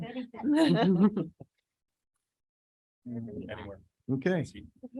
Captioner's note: board members laugh